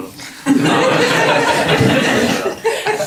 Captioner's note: laughter